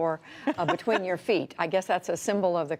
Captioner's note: laughter